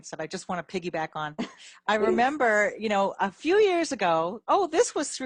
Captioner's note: chuckles